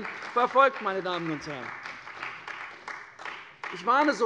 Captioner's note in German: Beifall bei der CDU und dem BÜNDNIS 90/DIE GRÜNEN